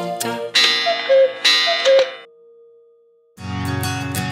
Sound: clock chiming

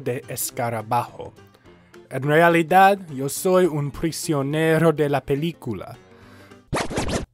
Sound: record scratch

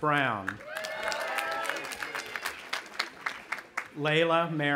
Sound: audience applauding and cheering

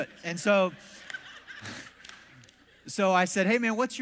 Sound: congregation laughs

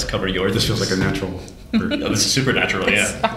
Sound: laughter

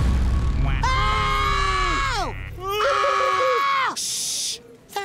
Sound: screaming

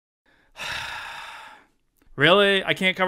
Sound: sigh

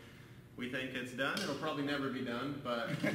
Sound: laughter

